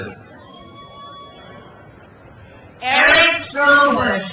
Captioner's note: crowd cheers